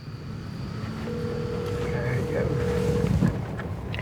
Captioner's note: phone ringing